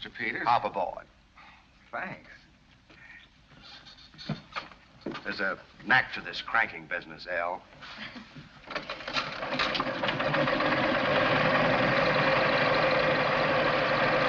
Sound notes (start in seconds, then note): 9.8 engine revs